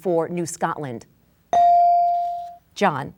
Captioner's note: bell dinging